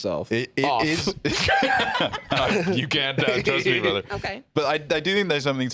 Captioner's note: laughs